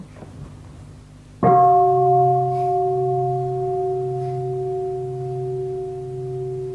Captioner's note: bell